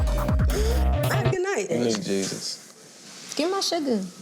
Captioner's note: chuckles